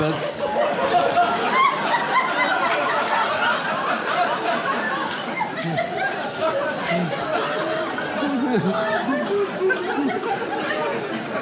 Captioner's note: audience laughs